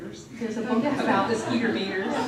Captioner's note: laughter